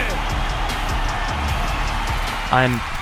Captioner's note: crowd cheers